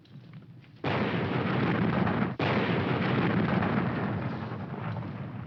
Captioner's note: canons firing